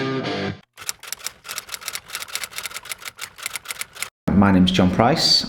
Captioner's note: typewriter clunking